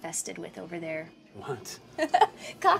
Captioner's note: Keely giggles